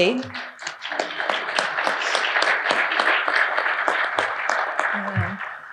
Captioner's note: audience applauding